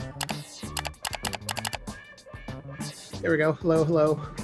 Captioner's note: downbeat music; sound click